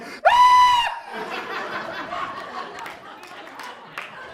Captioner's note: audience laughs